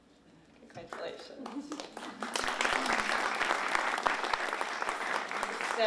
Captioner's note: applause